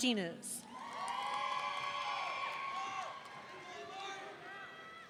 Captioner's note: audience cheering